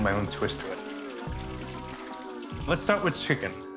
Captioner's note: sizzling